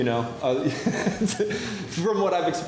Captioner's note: laughs